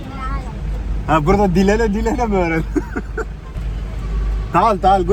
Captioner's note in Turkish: kahkaha